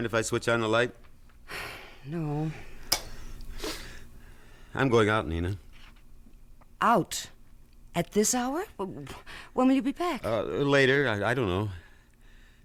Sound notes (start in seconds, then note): 3.2 sighs; 5.0 switch clicks